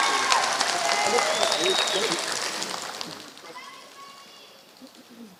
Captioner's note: applause